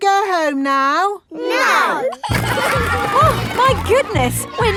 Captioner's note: giggling